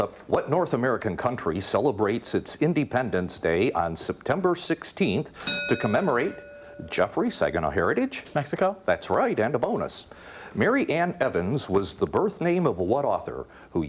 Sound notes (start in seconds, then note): 5.4 ding